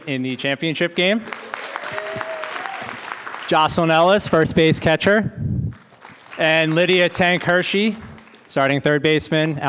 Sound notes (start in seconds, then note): 1.1 audience applauding; 5.8 audience applauding